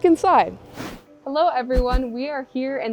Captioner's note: logo whooshing